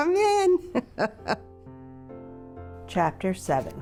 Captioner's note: laughs